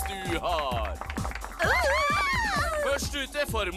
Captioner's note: cheering